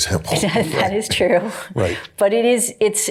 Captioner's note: chuckling